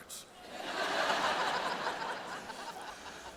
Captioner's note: laughter